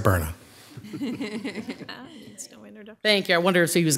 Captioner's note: chuckling